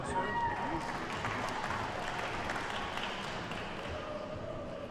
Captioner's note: attendees cheer and clap